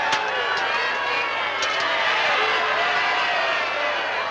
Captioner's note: truckling sound